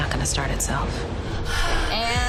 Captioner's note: heavy breathing